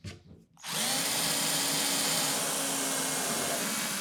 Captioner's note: drill whirring